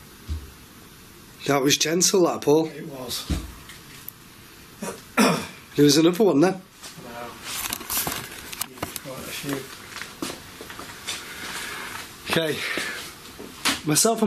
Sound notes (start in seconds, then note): 0.1 soft knocking; 4.0 loud knocking